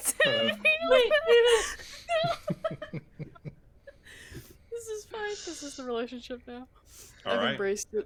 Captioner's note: laughter